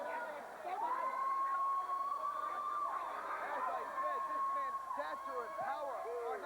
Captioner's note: crowd chatter